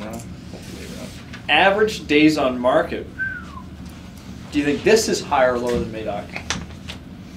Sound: whistles

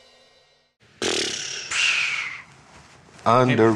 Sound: blows air

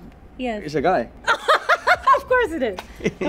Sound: laughs

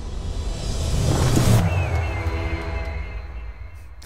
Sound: whoosh

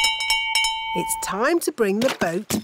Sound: bell rings

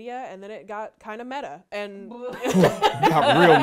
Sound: laughing

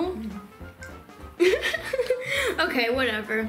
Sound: laughing

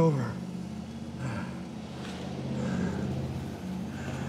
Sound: breathing heavily

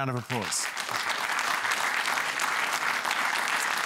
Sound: applause

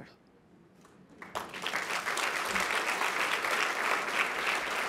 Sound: applause

